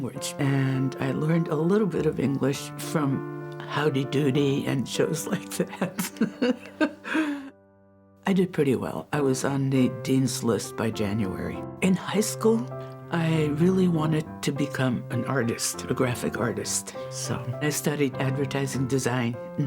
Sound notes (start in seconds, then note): 5.8 chuckles